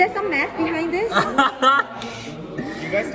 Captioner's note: chuckles